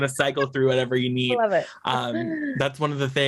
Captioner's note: laughs